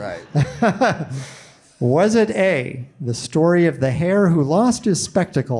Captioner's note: laughs